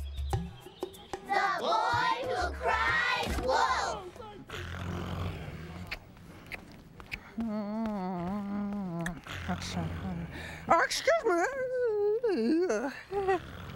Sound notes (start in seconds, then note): 4.6 Theo snoring, smacking lips; 6.6 humming quietly; 13.3 snoring